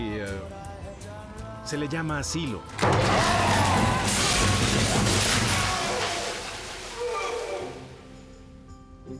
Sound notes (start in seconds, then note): 2.7 yells; 2.8 screams